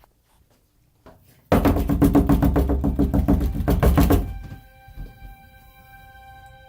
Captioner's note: knocking